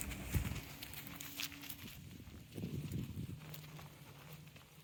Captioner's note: footsteps rustling